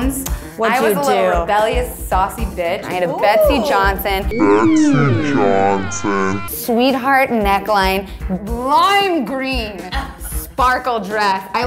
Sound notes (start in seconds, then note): 4.7 distorted Voice